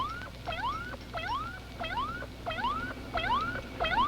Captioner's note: machine beeping